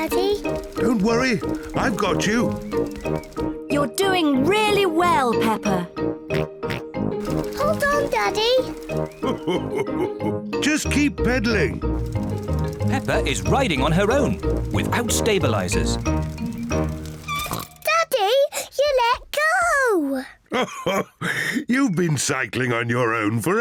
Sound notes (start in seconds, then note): 5.4 snorting; 9.1 laughs; 16.7 snorts; 20.5 laughs